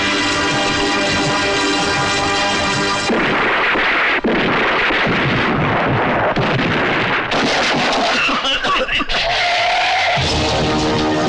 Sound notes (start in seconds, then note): 3.0 gunShot; 8.0 cough; 9.2 tire Screeching